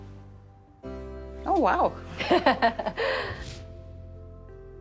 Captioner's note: light music; laughs